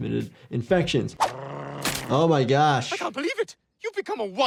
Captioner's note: Brian growling